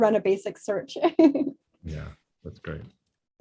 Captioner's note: chuckling